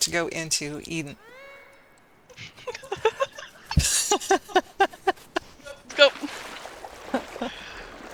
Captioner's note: laughter